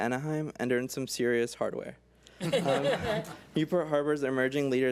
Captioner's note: board members laugh